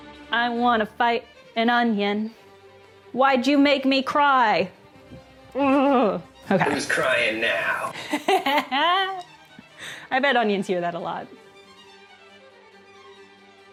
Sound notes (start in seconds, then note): 6.6 distorted, over Zoom; 9.1 laughing